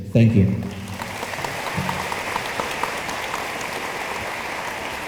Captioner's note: room applauds